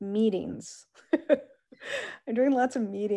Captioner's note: laughs